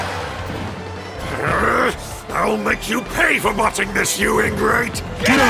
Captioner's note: growls